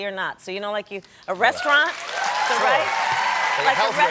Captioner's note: cheers and applause